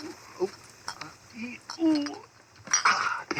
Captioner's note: strains and glass bottles squeak